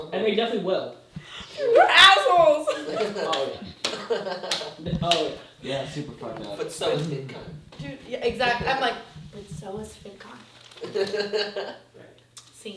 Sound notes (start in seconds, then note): 5.1 laughing; 10.8 laughing